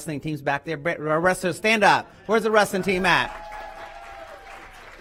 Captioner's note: applause